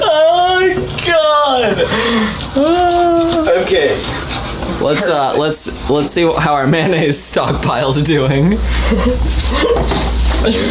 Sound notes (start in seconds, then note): 4.9 chuckling